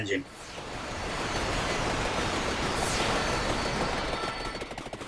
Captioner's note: energy whooshing